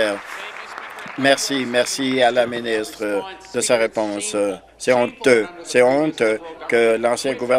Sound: some Applause

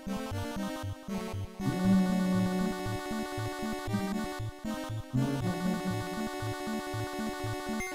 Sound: humming along

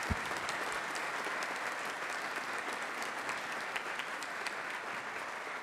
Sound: enthusiastic clapping

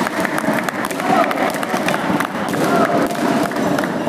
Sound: applause

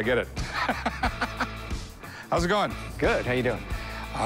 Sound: rick laughs

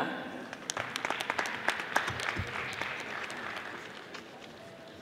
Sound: audience applauding

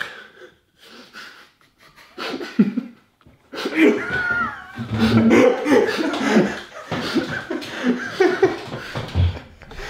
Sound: laughing

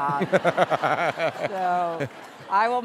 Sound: laughter

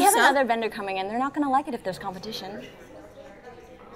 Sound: none

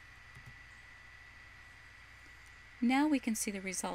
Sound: voiceover - female speaker

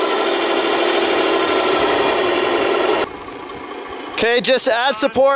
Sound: machine humming

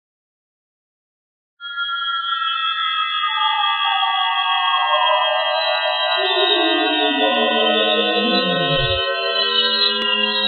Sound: crying zoanoid

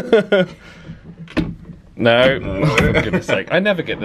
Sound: handle clunks

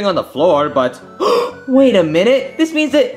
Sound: gasping

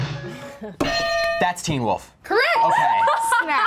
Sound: bell rings

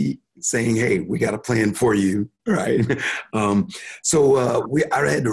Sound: chuckles

